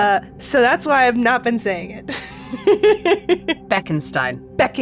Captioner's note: chuckles